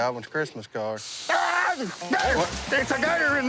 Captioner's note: screams